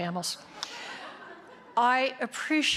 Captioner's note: audience giggling